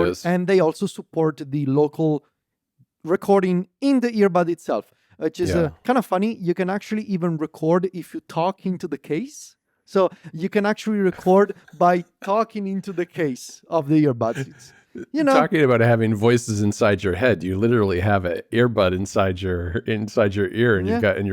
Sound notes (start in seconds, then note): 14.2 laughs